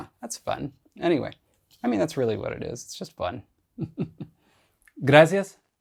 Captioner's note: laughs